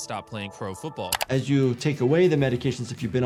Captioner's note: mouse clicking